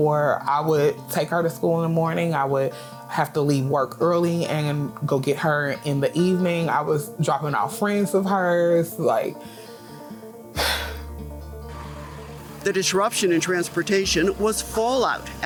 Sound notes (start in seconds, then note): 10.5 sighs; 11.0 gentle dramatic music